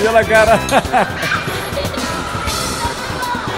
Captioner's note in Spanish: se ríe